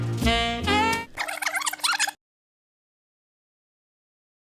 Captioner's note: cassette squealing